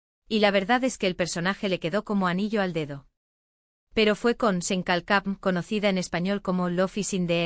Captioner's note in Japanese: スペイン語で「ロフィス・イン・ザイル」